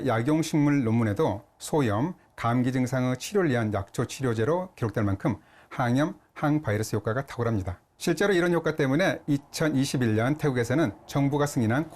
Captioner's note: voiceover